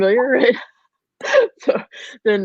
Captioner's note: women laughing